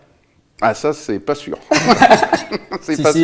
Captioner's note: laughs